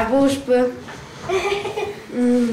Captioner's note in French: rire